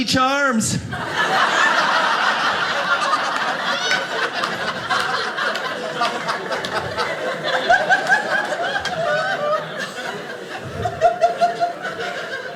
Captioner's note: audience laughing